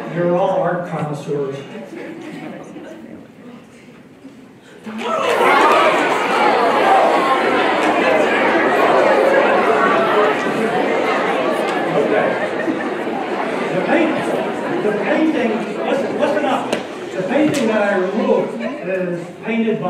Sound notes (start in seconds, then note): 4.2 cheering; 5.2 audience reacts